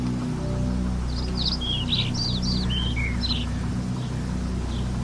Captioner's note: birds tweeting